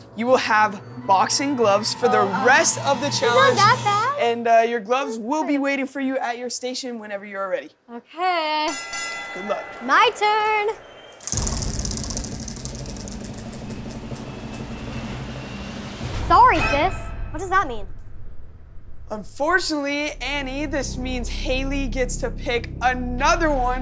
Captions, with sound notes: You will have boxing gloves for the rest of the challenge, and your gloves will be waiting for you at your station whenever you are ready. - OK. - Good luck. My turn! [spinning] - Sorry, Sis! What does that mean? Unfortunately, Annie, this means Hayley gets to pick another one